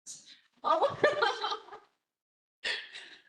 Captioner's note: laughs